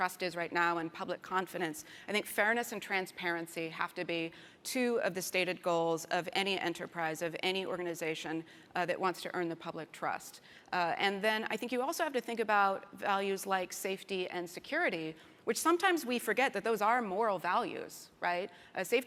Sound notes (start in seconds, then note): none